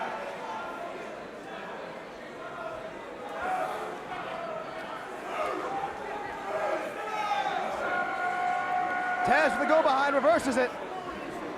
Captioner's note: crowd chatter